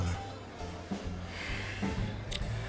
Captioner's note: sighs